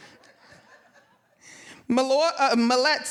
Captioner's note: audience members laughing